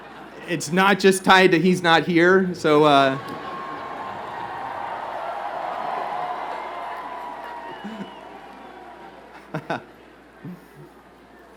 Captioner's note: laughter